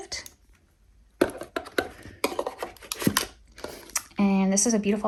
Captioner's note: item thudding